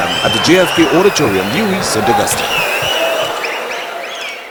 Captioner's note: wild applause and cheering for 22 seconds